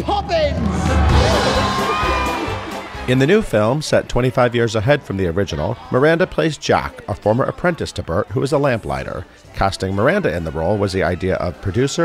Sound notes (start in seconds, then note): 0.0 cheers